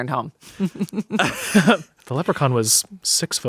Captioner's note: everyone laughs